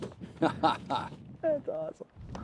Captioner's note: laughs